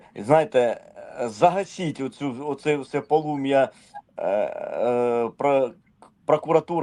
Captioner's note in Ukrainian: прочищення горла